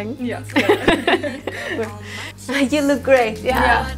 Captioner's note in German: Lachen